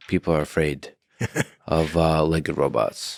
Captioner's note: laughs